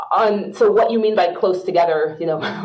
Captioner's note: laughs